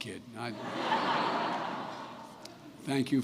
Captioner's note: laughter